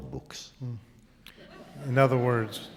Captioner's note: laughter